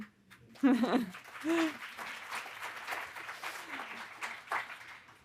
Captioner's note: audience applauding